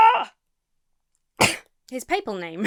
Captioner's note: coughs; laughs